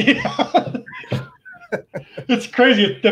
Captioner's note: laughing